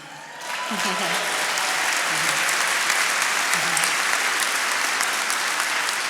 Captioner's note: attendees cheering and applauding